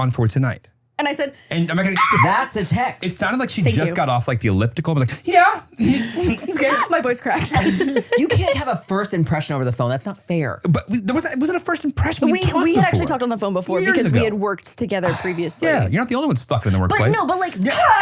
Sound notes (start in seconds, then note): 7.7 laughs